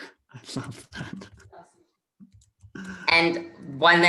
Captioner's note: host chuckling